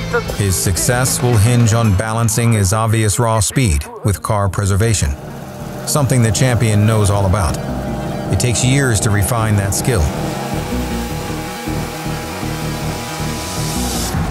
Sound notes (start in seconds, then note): 4.8 engine revving; 10.7 fast-paced chase music